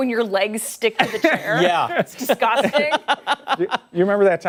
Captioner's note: laughter